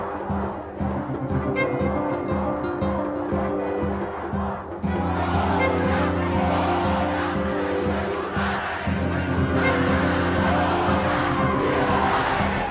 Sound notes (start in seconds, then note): 0.2 strumming music; 4.7 crowds chanting